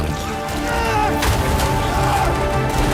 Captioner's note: pained scream